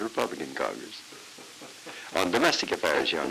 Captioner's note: Murrow laughing